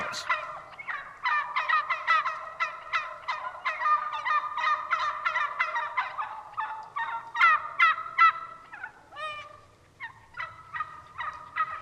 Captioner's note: turkey sounds